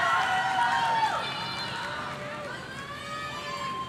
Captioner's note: audience cheering